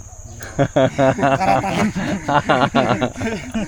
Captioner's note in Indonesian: tertawa